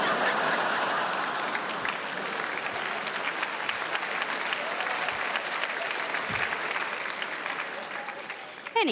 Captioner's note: crowd laughs